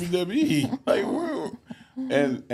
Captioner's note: host laughs